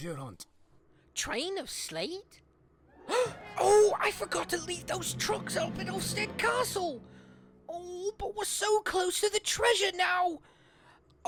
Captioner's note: gasps